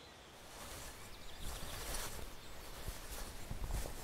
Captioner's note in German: Stoffgeräusche